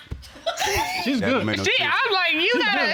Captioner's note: laughing